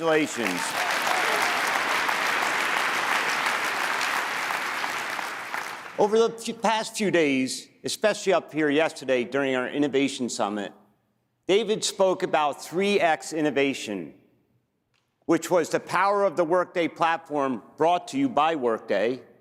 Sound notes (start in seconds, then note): 6.2 applause